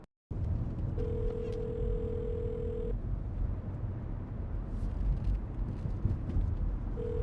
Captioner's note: phone ringing